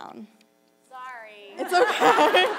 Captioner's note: laughter